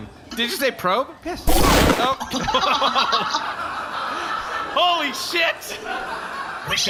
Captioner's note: blast